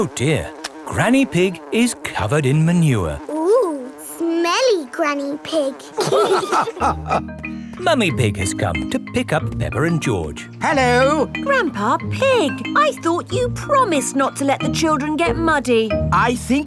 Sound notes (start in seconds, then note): 5.9 all laughing